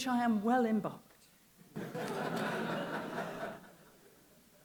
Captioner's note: laughter